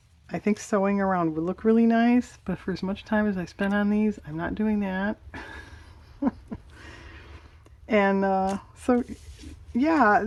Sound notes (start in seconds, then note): 8.1 laughs